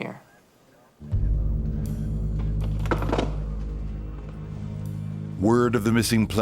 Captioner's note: ominous music; popping